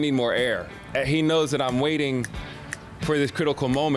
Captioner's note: snapping fingers